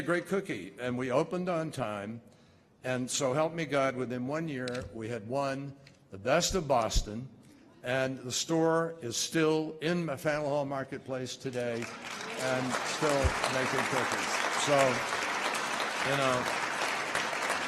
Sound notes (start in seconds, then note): 11.5 applause